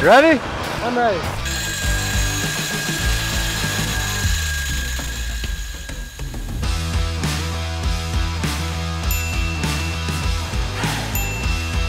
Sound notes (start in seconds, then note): 1.4 metal clanging; 5.5 energetic rock music continues; 9.0 bell dinging